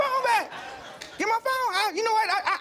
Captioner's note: audience laughs